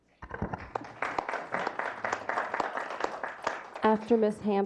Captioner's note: clapping